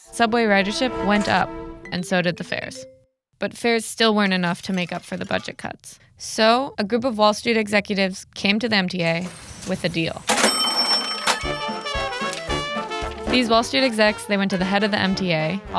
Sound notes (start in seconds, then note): 9.1 cash register ringing